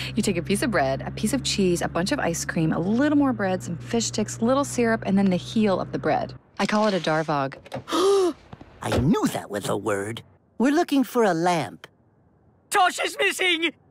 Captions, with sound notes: You take a piece of bread, a piece of cheese, a bunch of ice cream, a little more bread, some fish sticks, a little syrup and then the heel of the bread. I call it a DARVOG. *GASP* I knew that was a word! We're looking for a lamp. Tosh is missing!